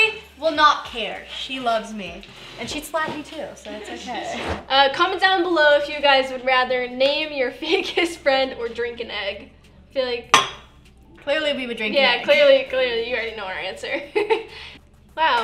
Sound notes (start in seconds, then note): 10.6 gags